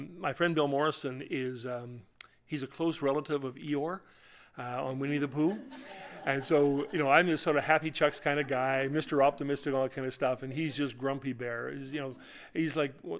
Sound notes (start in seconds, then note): 5.4 laughter